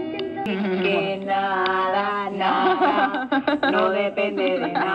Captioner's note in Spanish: risas